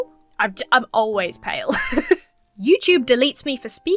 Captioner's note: laughs